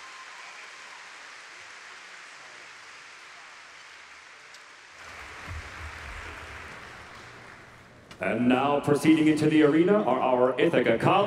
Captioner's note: applause